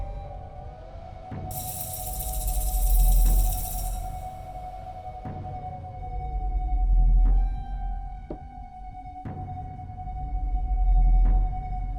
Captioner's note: rattling sound